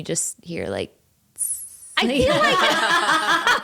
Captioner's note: laughing